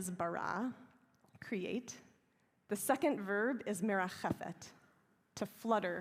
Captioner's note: hebrew; hebrew